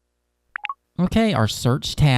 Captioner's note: device blips